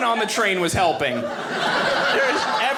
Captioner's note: audience laughing